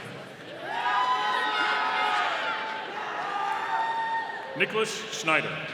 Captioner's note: audience cheering